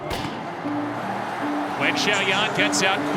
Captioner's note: starter gun